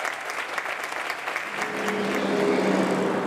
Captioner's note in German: Applaus ebbt langsam ab